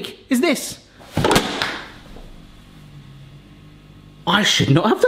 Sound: gadget banging

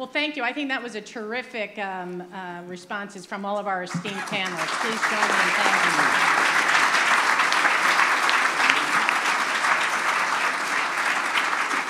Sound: applause

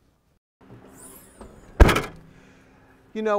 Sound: sound of van door slamming

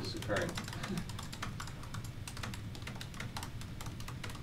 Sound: keyboard clattering

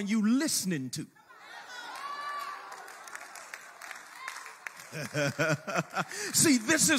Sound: congregation cheers and claps; chuckles

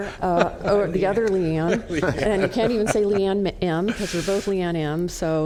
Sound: laughter

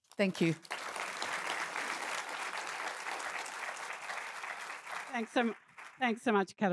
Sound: applause

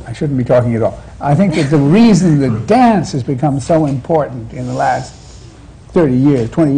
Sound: laughter

